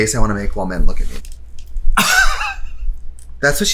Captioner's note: laughs